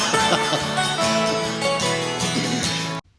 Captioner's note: both laugh